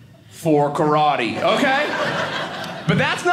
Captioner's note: audience laughing